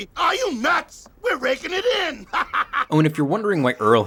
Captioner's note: laughing